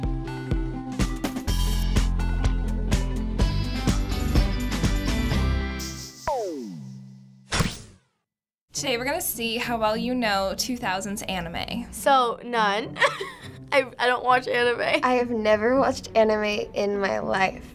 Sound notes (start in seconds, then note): 13.0 giggles